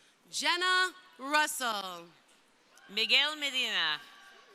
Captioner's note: crowd cheering